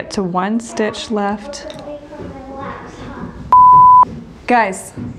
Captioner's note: children making noise in the background